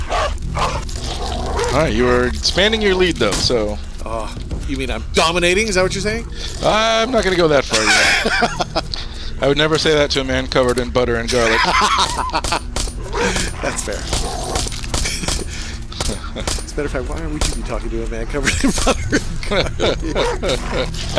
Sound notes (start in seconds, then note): 7.6 laughs; 11.4 laughs harder